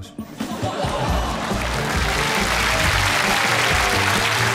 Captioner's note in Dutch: gelach, applaus